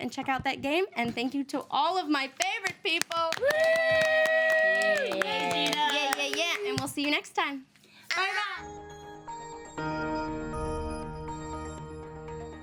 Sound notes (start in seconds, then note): 3.4 all cheering; 8.6 pleasant music